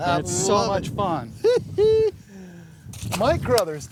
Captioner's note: chuckles